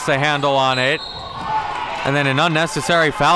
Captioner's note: whistle blows